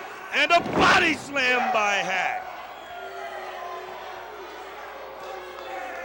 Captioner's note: crowd cheering